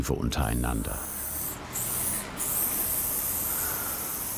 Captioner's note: hissing spray noise